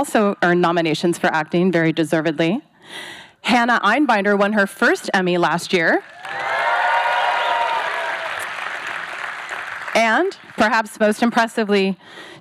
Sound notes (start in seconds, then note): 6.0 cheering; 8.5 applause